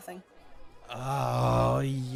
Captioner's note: Sirius groans dramatically